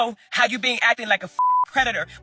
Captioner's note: beep